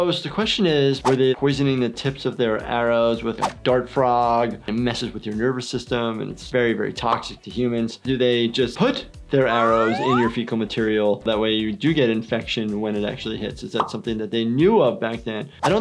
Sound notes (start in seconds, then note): 9.5 slide whistles